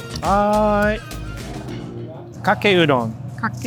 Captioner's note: crew speaks in foreign language